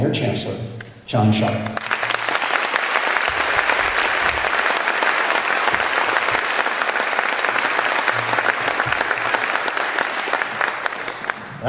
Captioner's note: applause